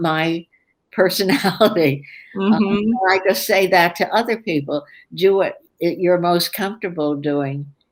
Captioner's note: laughs